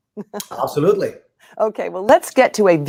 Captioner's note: chuckles